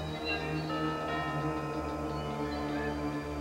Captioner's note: d■orbell rings